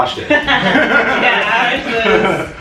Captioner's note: laughter